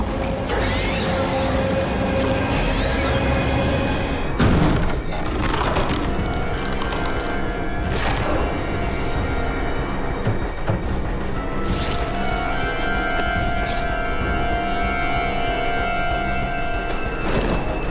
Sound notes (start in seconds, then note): 0.4 screeching; 4.3 clanking